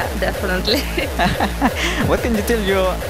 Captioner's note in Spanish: risas